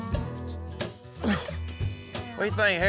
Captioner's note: grunts